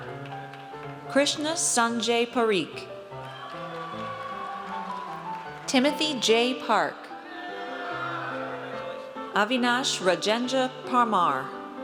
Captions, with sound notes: Krishna Sanjay Parikh. (audience cheers) Timothy J. Park. (audience cheers) Avinash Rajendra Parmar.